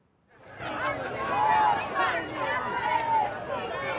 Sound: indistinct shouting

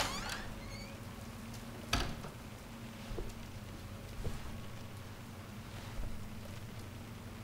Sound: rain drops

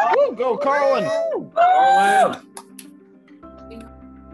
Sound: cheering

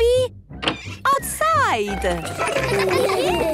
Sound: laughter

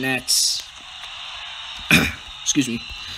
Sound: clears throat

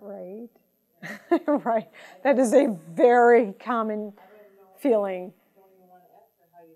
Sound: laughing

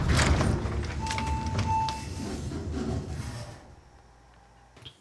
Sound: bell dinging

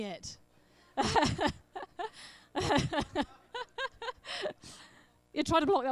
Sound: laughs

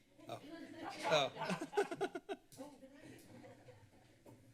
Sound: laughter

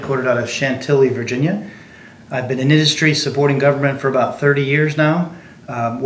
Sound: none

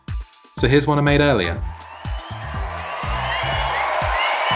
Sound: crowd cheering

